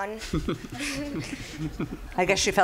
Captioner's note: laughing